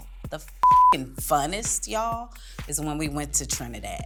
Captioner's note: beep